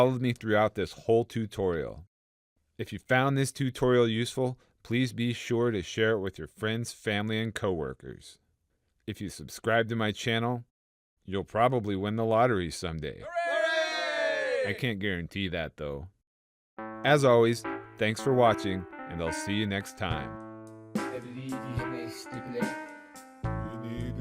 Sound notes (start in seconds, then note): 13.2 cheering